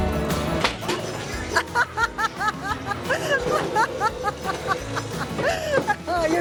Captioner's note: laughs